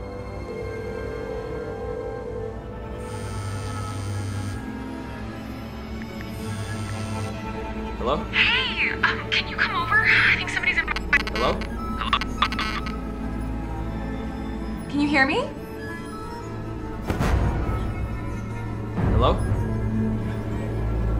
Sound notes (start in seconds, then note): 0.3 phone dials; 3.0 phone vibrates; 11.9 static; 17.1 suspenseful music